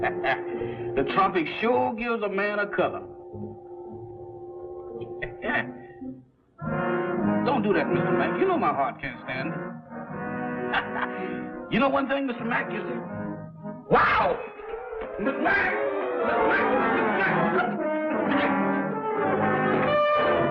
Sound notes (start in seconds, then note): 0.0 chuckling; 13.9 screams; 15.5 shouting; 19.0 tense music